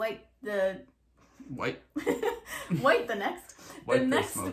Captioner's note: laughing